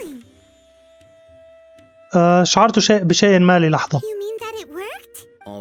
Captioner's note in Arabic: زقزقة الطيور